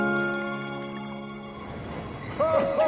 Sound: bells ringing

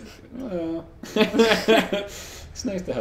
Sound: both laugh

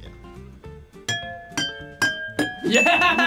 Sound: glasses chiming; laughs

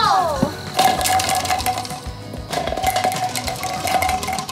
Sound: clattering

